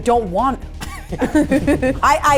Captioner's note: both laughing